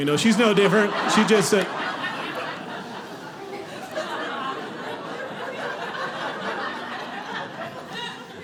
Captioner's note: audience laughing